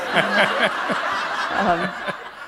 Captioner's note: laughter